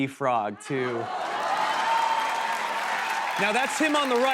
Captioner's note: cheers and applause